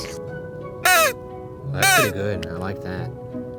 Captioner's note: whistle blows